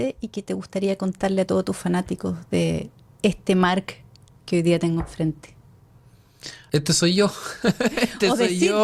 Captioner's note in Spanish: risas